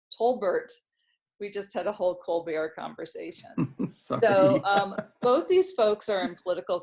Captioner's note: laughs